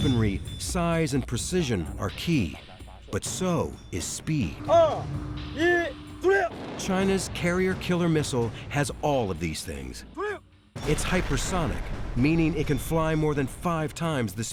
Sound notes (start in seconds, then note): 4.8 speaks in foreign language